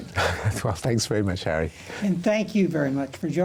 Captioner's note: chuckles softly